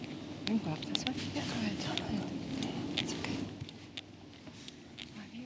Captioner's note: panelists speaks faintly